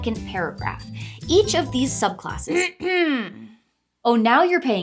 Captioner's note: throat clearing